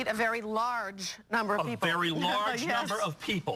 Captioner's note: laughs